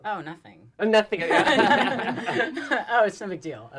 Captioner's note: laughter